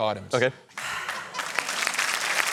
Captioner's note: sighs; applause